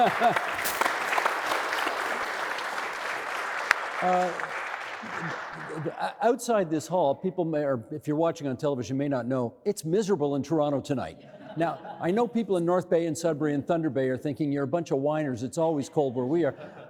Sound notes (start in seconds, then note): 0.0 audience applauding; 3.3 applauding